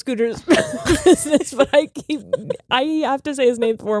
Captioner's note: both laughing